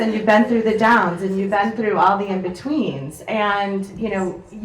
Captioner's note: none